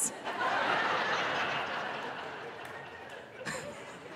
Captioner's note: audience laughing